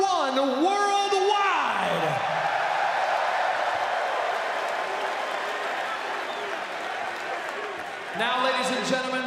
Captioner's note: crowd cheering